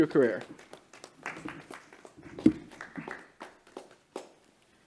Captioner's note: clapping